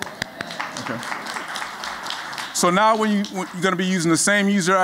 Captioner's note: �applause�